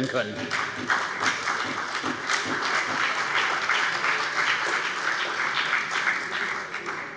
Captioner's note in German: Beifall bei der CDU und dem BÜNDNIS 90/DIE GRÜNEN